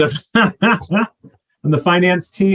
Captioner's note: laughs